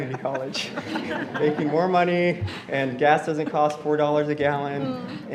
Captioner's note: laughter